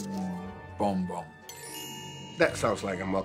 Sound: magical chime

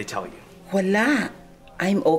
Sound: Criselda speaks Tagalog

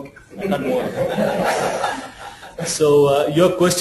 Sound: laughs

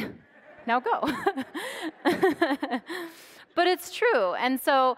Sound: audience laughs

